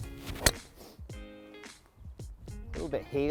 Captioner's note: club hitting